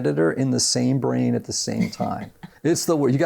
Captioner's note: laughs